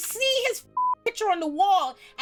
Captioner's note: beep